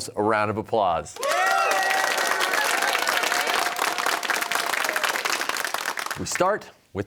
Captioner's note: cheers and applause